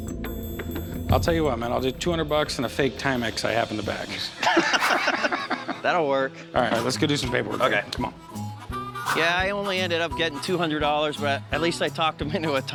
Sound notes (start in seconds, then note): 4.4 laughs